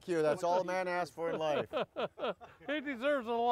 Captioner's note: Santa and Merrill laugh